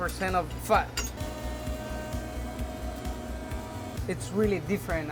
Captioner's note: grinding sound